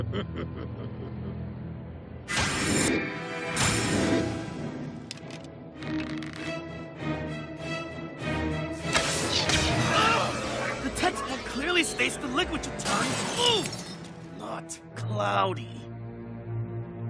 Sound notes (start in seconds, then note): 0.0 snickering; 9.7 screaming